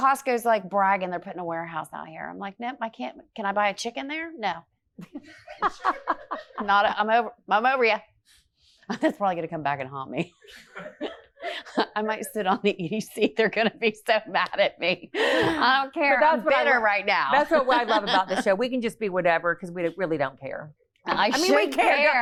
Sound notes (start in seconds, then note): 5.4 audience laughs; 10.4 laughs